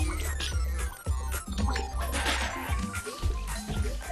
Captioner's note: video game sound